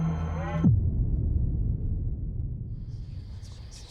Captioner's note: boom sound